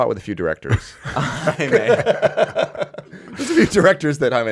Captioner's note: laughing